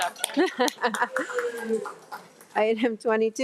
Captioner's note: laughing